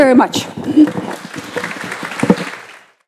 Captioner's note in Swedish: Applause